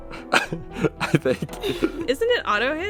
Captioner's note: laughs